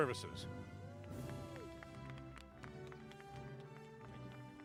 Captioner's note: applause